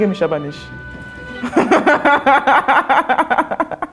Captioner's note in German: Lacht